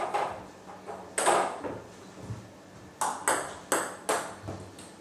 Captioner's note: ball ping pong hitting continues